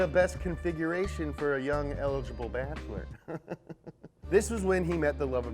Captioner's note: chuckles